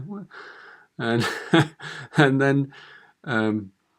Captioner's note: chuckles